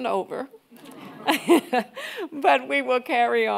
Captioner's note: audience laughing